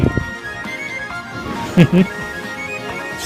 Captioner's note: Lord Enma chuckles